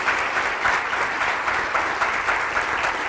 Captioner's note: applause